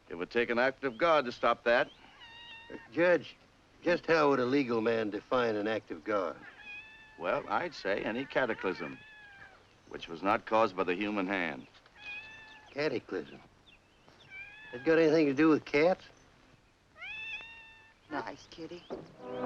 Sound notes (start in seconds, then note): 16.9 cat meows; 19.2 foreboding music